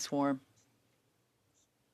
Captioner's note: speaking French